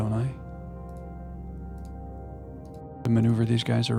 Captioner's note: keyboard clicking